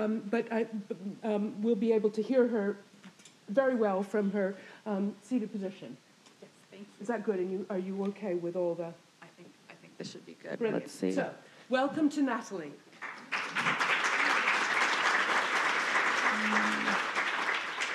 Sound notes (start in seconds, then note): 12.9 audience applauding